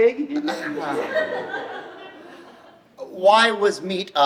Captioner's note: audience laughs